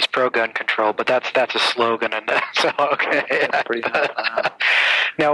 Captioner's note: laughs